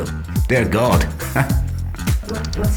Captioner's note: laughs